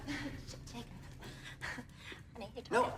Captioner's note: laughs